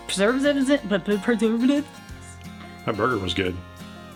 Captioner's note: stuttering